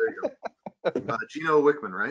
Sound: laughing

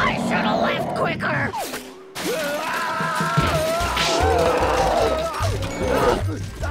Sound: screaming, roaring

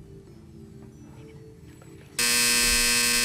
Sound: buzz

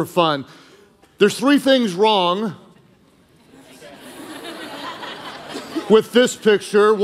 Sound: congregation laughing

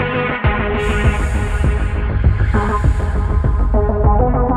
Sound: magical whooshing

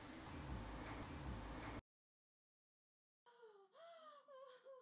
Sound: soundscape of waves, sexual moans and ultrasound follows

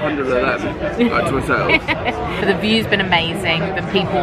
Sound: laughing

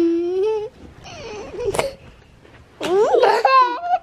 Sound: giggles

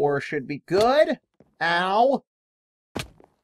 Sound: picking sound

